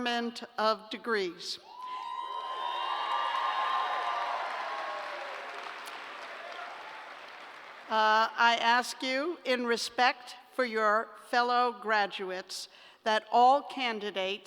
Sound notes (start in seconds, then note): 1.7 cheers and applause